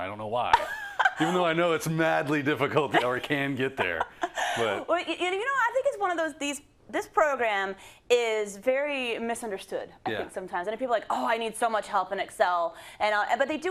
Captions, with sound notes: some strange reason, I don't know why. -[LAUGH] -No you know it's madly difficult, or can get there, but -[LAUGH] I think it's one of those, this program is very misunderstood, I think, sometimes. And people are like I need so much help in Excel, but